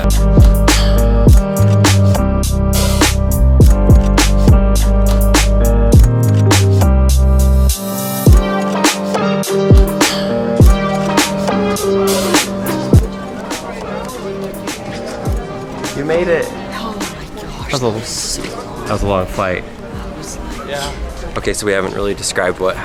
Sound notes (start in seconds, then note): 0.3 laidback music; 13.2 chatter